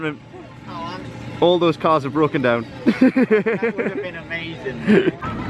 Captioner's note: laughter